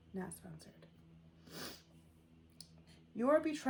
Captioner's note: sniffles